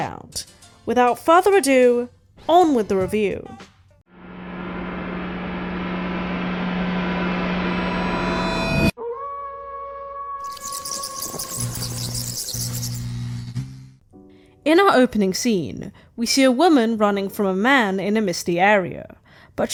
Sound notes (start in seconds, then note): 4.0 spooky noises